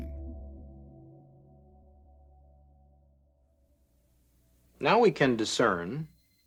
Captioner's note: soundbite of documentary, "the silent scream"